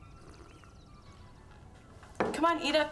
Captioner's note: dog whimpers; slurps